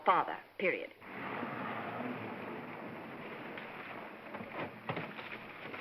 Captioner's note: cars rumbling; car doors opening